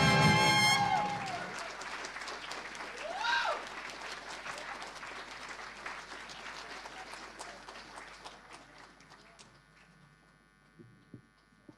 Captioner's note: audience applause